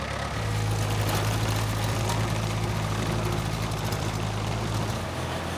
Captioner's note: machinery rumbles